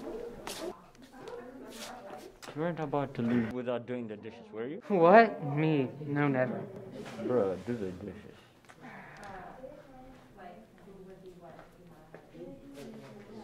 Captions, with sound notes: - You weren't about to leave without doing the dishes, were you? - What?! Me, no. Never. - Bro, do the dishes. (sighs)